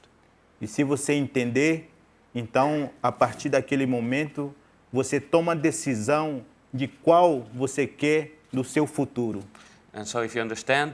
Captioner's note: speaking in portuguese